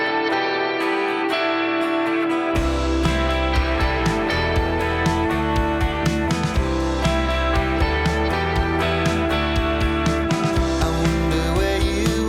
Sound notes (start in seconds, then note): 3.9 bike engine rumbles